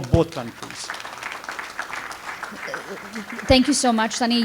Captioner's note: audience applauds